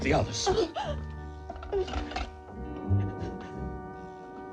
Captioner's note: whimpering